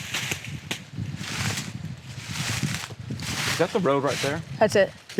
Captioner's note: leaves crunching